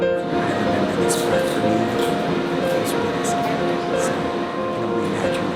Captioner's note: whispering